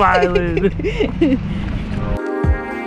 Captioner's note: laughing; upbeat pop music